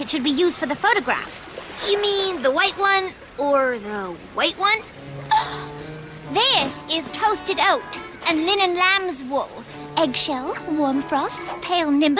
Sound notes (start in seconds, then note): 5.1 scoffs